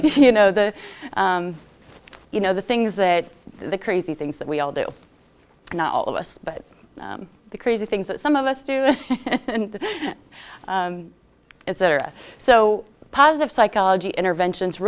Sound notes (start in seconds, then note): 9.3 laughs